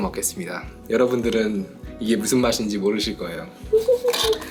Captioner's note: haha